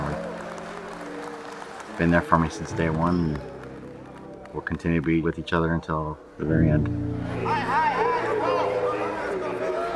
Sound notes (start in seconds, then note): 7.4 yelling